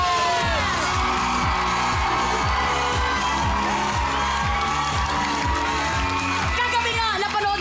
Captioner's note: applauding, cheering